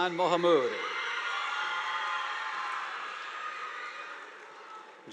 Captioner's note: audience applauding